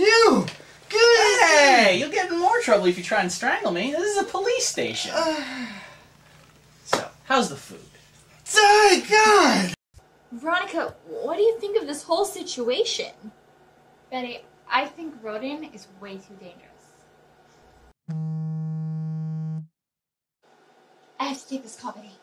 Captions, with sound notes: You!! Hey — you'll get in more trouble if you try and strangle me. This is a police station. [sighs] So… how's the food? Yeah — God! What do you think of this whole situation? I think Roden is way too dangerous. [phone vibrates] Betty, I have to take this.